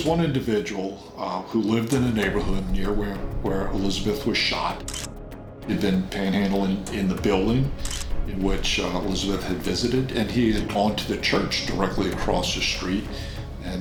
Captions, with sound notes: - But there was one individual who lived in the neighborhood near where Elizabeth was shot. (camera shutter snapping) He'd been panhandling in the building in which Elizabeth had visited and he had gone to the church directly across the street